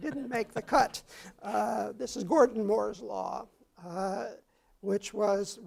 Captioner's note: laugh